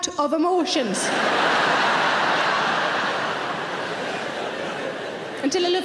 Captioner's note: audience laughing